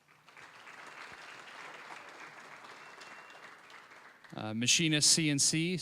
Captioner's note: applause